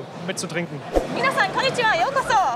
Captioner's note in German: japanisch